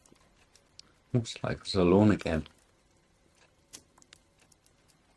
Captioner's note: none